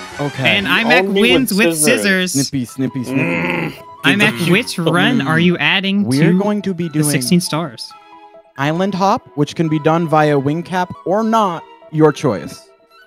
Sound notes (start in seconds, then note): 3.0 groans